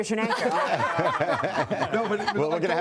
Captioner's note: laughter